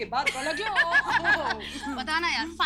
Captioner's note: Everyone laughing